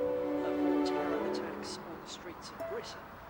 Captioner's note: man On Radio